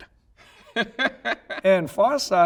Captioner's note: laughing